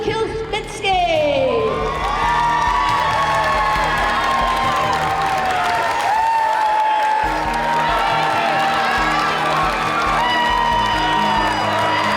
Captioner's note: cheers and applause